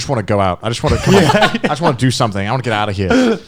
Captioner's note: laughing